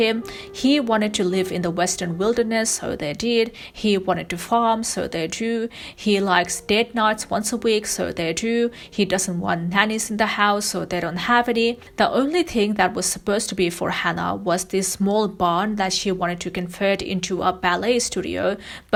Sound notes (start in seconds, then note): none